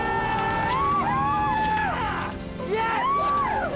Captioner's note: cheering